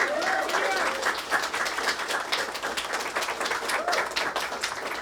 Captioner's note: audience applauding